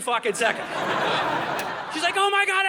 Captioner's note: audience laughing